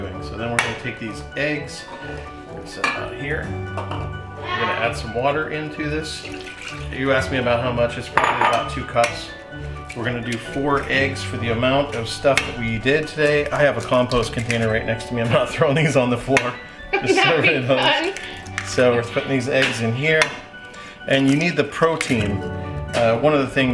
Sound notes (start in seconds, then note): 16.9 laughing